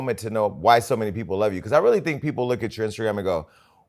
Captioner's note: none